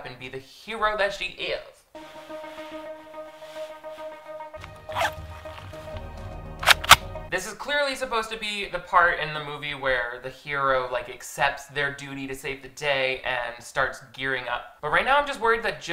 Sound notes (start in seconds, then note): 2.0 suspense music; 4.6 boots zipping; 6.6 gun snapping